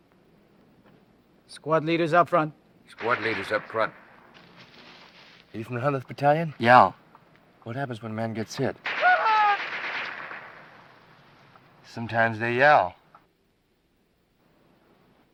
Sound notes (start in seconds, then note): 8.8 gun firing; 8.8 soldier screaming